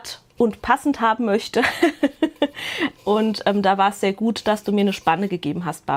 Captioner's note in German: gelächter